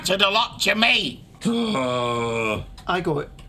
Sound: Igor groaning

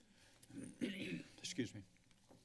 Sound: clears throat

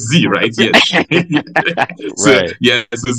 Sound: laugh

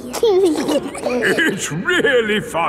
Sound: giggling

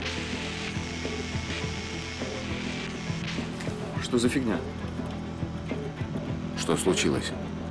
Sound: dial tone

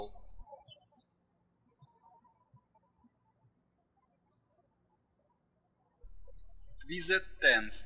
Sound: birds chirping

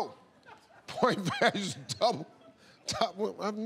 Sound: laughing

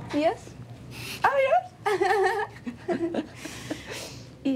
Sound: laughs

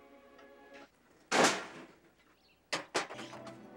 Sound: junk clanging; elegant music

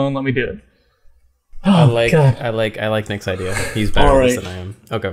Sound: stutteringly, aswell

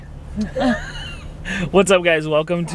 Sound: both laugh

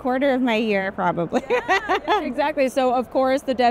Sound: laughs

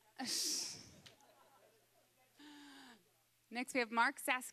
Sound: audience laughing

